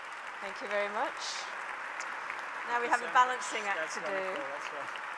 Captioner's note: applause